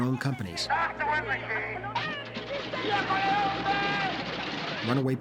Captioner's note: shouts In Italian